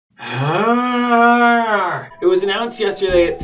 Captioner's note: groans